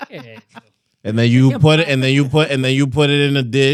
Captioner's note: laughing